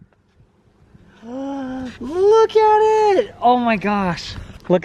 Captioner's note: gasps